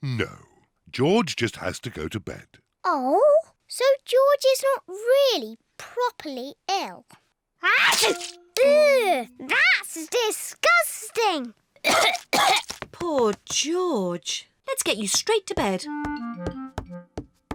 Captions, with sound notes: No. George just has to go to bed. Oh, so George is not really, properly ill? -(SNEEZES) -Ew! That's disgusting! (COUGHS) Poor George. Let's get you straight to bed.